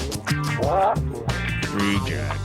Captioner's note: bird squaking